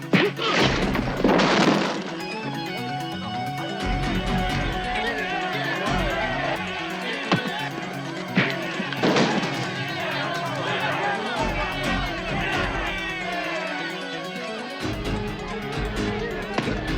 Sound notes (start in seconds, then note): 0.4 crashing; 5.0 shouting